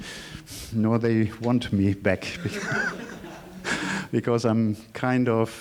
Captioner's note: laughing